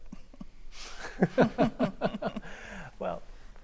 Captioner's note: panelists laughing